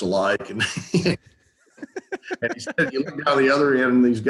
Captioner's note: both laughing